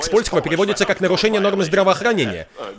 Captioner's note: <i>chuckles</i>